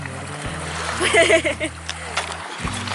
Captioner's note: laughs